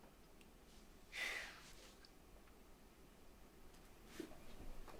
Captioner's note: Lily sighing